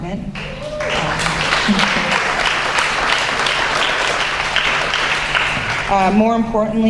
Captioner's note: applause